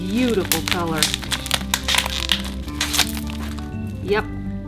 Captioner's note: plastic noise